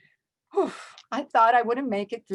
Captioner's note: sigh